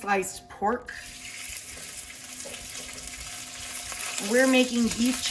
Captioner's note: oil sizzles in pan